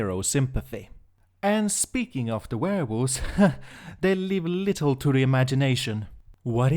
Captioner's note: nervous laugh